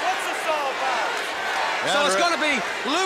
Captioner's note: crowd chatter